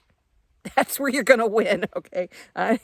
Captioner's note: chuckles